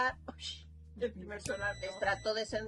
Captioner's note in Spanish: sonido: piiiiii